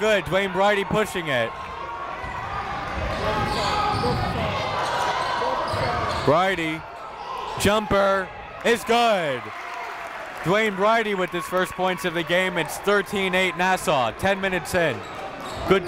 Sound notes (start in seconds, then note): 2.4 crowd talking; 8.9 crowd cheering